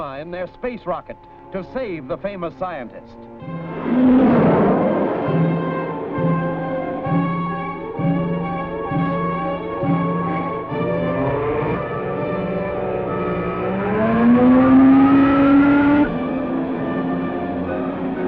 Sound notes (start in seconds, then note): 3.7 comet screeching; 3.7 ominous music